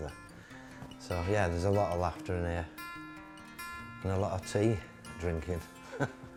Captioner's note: chuckles